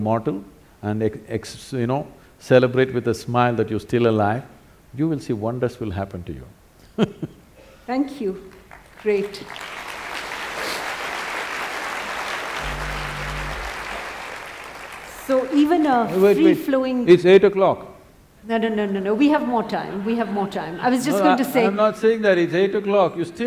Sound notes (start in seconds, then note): 6.5 laughs; 9.4 applause; 19.5 laughter